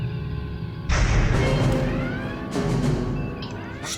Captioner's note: crash